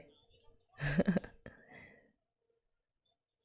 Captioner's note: laughs